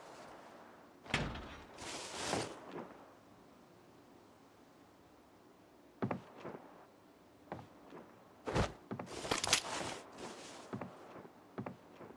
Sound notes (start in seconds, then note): 1.1 door nudges